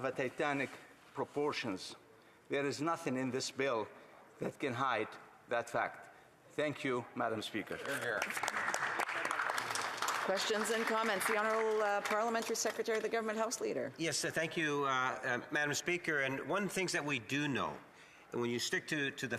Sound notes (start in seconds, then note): 12.1 some Applause